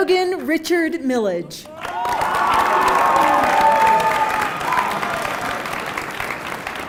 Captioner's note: applause